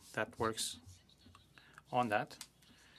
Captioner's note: speaking French